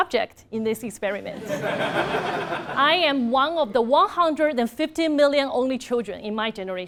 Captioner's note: laugh